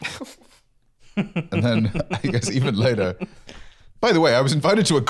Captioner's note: laughing